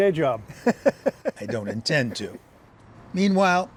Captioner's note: laughter